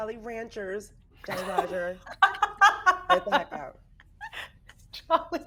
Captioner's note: person laughing